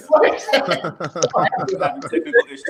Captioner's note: laughing